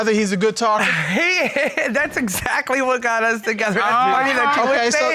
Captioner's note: chuckles